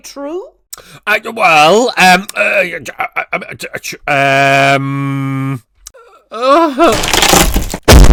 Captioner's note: stuttering; stool breaks